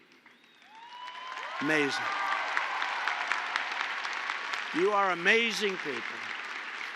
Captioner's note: applause